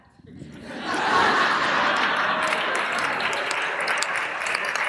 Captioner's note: audience laughing